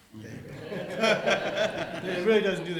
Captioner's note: audience laughs